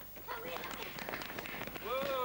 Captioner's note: boys shouting; running footsteps